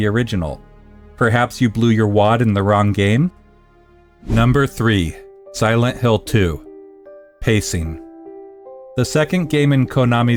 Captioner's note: pacing